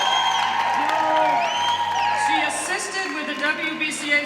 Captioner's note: applause